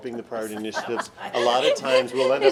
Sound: board members laugh

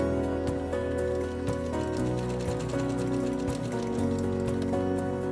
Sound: sewing machine

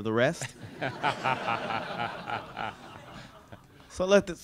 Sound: laughter

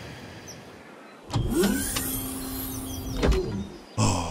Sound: Gang of Punks' ship door opens

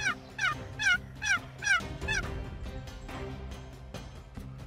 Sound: turkey call

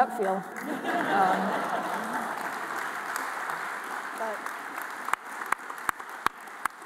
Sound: audience applauding; audience laughing

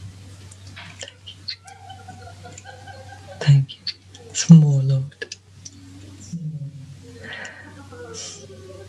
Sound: laughs

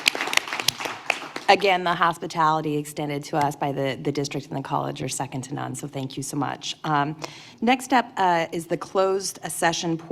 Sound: applause

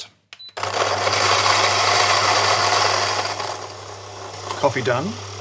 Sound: grinder engine roars

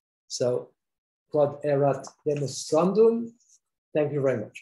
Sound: speaks foreign language

